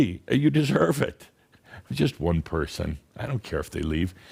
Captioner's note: Adamus chuckles